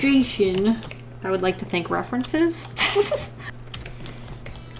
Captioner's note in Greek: Γέλια